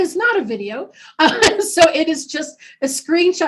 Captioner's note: laughing